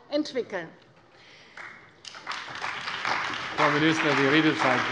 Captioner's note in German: Beifall bei der CDU und dem BÜNDNIS 90/DIE GRÜNEN